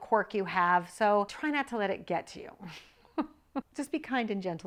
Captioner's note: laughs